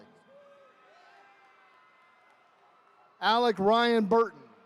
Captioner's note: attendees cheering